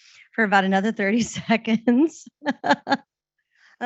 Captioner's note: laughing